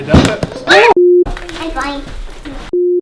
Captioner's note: beep